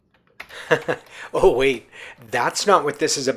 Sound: laughs

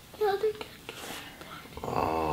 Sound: whispering

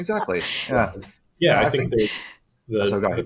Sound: chuckling

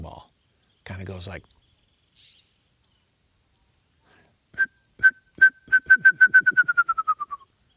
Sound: whistles

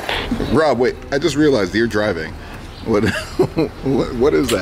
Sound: laughs

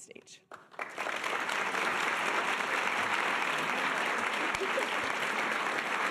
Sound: audience applause

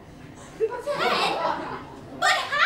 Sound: laughter

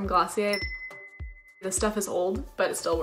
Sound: chimes

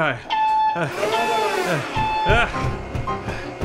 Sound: beep beep!

